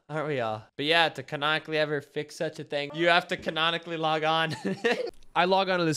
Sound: laughs

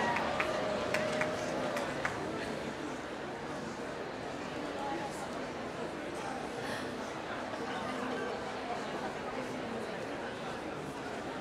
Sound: applause

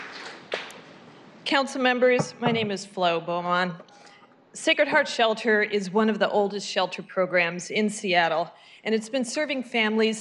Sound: applause

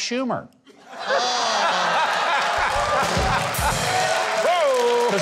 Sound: everyone laughing

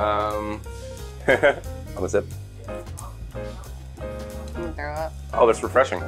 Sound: laughs

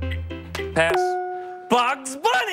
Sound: ding

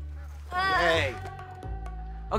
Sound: weak cheering

